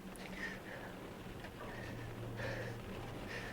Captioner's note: anchor panting